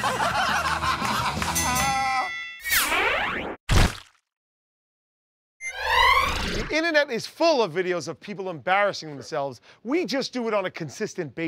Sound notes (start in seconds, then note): 0.0 laughter; 1.5 ding!